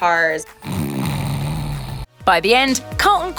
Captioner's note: snoring